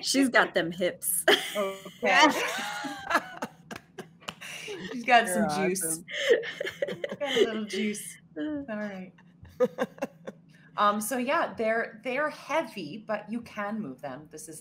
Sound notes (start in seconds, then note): 1.3 all laughing